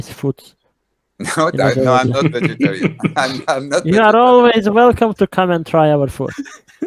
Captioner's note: laughing